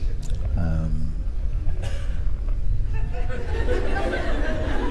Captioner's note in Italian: Risate